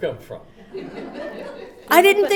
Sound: everyone laughs

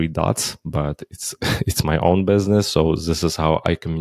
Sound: chuckles

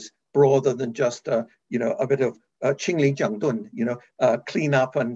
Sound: speaking in foreign language

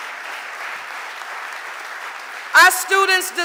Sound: audience applauding

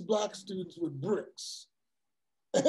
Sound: laugh

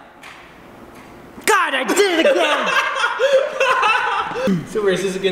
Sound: laughs

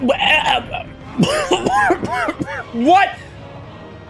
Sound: chokes and coughs

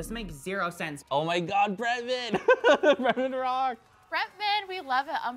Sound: laughs

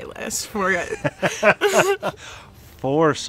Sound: laughs

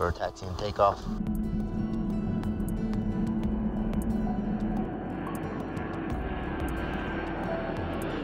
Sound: DC-8 taking off

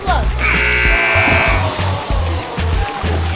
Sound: buzzer

